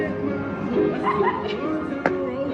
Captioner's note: laughing